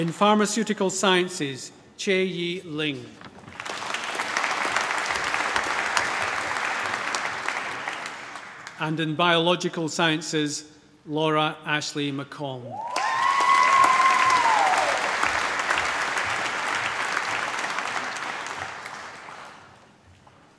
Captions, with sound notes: In Pharmaceutical Science, Chai Yi Ling. (APPLAUSE) And in Biological Sciences, Laura Ashley McColm. (CHEERING, APPLAUSE)